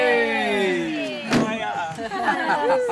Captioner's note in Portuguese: risos